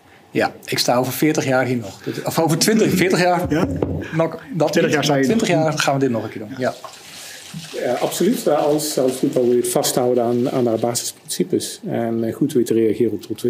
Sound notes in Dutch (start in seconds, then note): 3.4 knock-knock